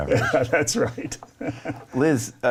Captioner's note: chuckling